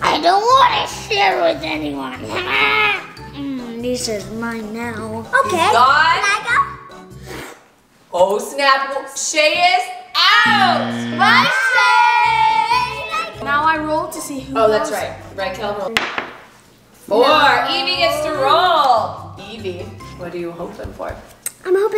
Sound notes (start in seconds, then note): 7.6 slurping; 10.4 buzzer; 16.0 thud